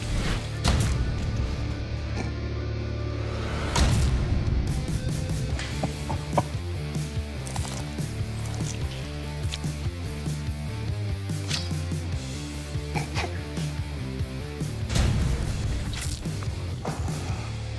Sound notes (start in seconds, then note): 5.8 laughing